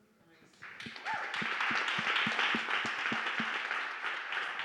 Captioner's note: audience applauding